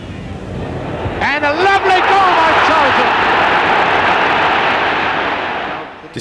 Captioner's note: crowd roaring